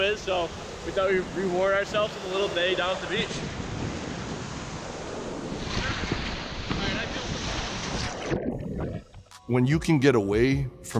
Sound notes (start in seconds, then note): 3.8 waves crashing on shore